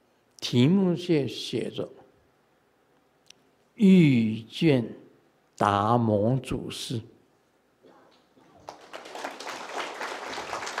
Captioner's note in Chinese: 眾鼓掌